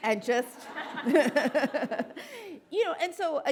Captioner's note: audience laughing; laughs